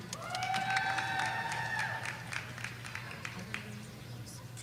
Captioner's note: audience cheering